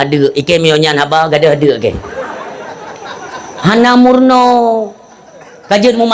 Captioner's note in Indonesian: tertawa